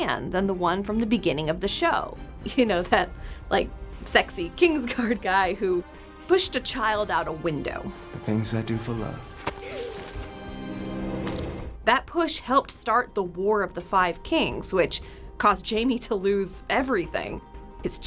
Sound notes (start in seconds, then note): 9.6 Bran gasping